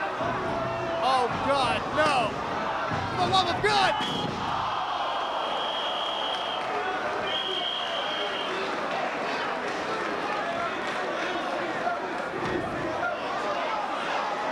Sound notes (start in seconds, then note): 4.5 spectators exclaiming; 4.5 whistling; 7.0 spectators cheering and applauding; 10.2 spectators chanting "ECW!"